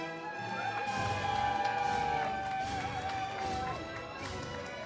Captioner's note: audience cheers